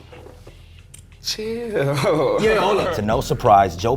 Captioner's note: laughs